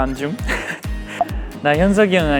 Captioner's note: laughing